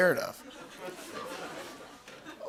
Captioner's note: laughter